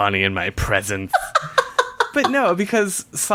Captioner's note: laughs